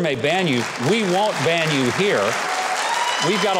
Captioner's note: audience applauding